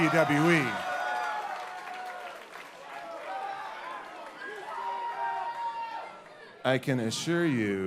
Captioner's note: crowd cheering